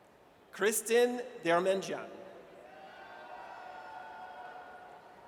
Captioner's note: audience cheers